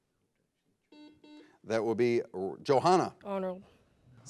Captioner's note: buzzer blares